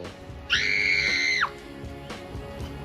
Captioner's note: screams